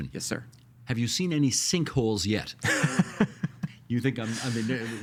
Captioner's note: laughing